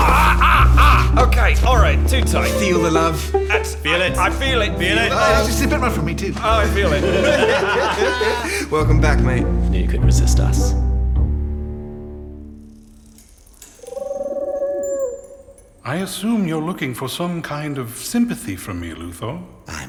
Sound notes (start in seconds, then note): 6.4 everyone laughs; 13.7 Fawkes coos